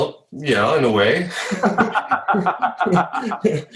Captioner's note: laughing